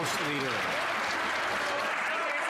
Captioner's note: some Applause